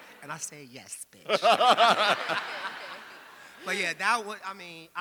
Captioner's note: laughing; audience laughing